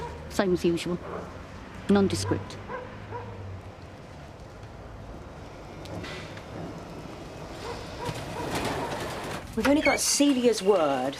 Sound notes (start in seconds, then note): 7.6 dog barking